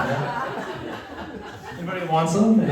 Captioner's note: laughter